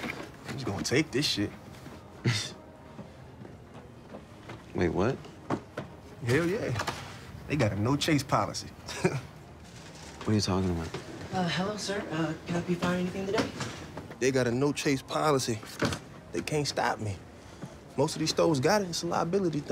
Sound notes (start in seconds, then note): 2.2 laughs; 8.8 chuckles